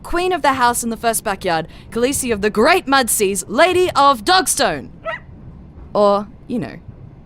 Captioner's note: FX: Bark